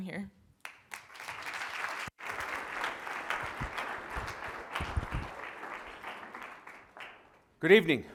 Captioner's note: applause